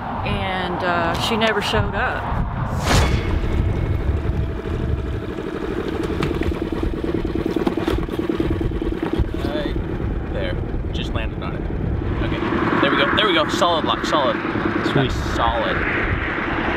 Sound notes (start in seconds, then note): 3.5 boat motor purring